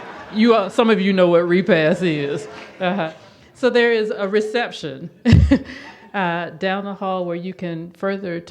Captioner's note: audience laughs